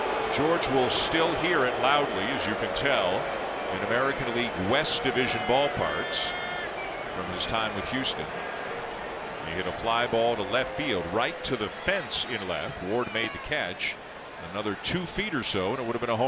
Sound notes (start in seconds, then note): 7.2 crowd noise